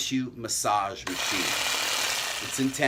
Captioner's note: machine humming